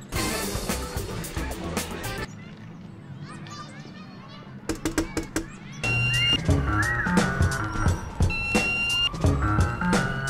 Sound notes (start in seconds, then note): 5.9 wolf whistle